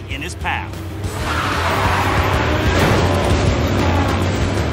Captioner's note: tires screech